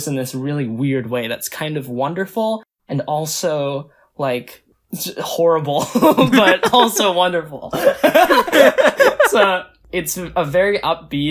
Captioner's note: both laugh